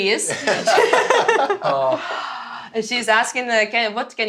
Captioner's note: laughter